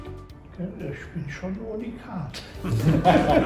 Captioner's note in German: lacht